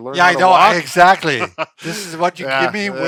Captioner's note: laughs